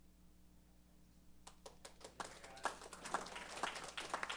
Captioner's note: applause